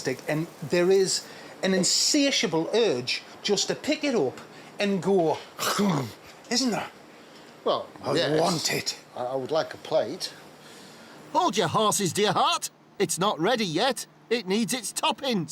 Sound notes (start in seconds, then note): 6.4 munches